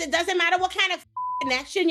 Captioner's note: beep